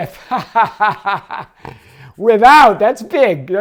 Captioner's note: laughs